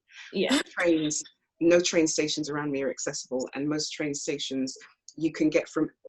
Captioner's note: clears throat